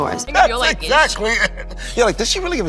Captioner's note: laughing